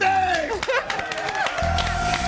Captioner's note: audience cheers